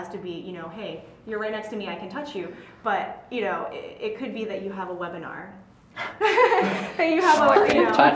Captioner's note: laugh